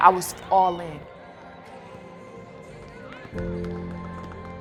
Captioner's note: crowd cheering